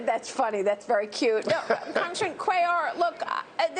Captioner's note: laughter